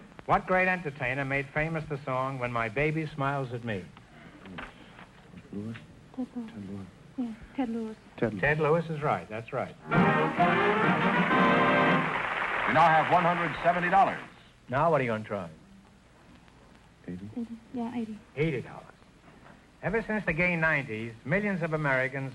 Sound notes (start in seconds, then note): 5.6 whispering; 9.9 triumphant music & applause